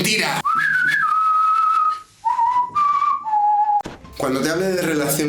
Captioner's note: whistle